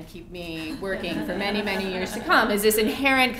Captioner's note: laugh